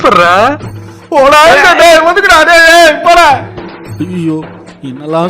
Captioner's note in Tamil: அலறுதல்